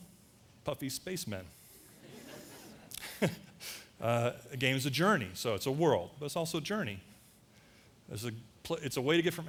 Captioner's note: audience laughter